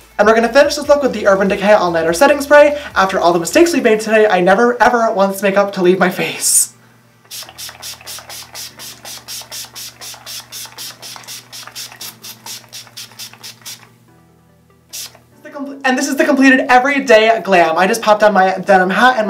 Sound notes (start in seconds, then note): 7.2 spray noises